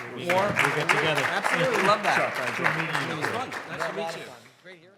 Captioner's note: audience applauding